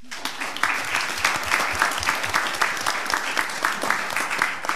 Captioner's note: all applauding